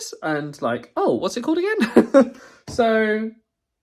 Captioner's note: laughs